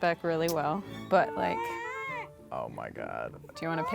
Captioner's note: baby crying